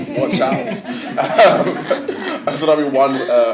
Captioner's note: laughter